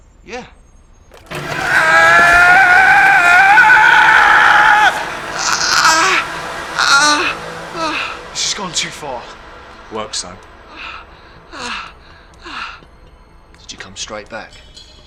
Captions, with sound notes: - Yeah. (water pouring) (Daveyboy screaming) (Daveyboy groaning) (sinister music) - This has gone too far. - Works though. (Daveyboy breathing heavily) Did you come straight back?